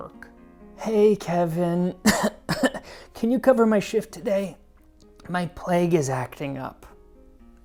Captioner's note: cough cough